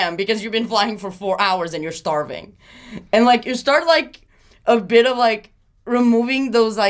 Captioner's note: none